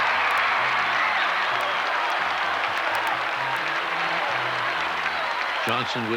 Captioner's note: cheering